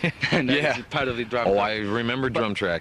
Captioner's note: laughing